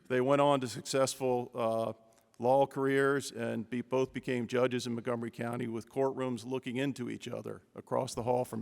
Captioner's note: none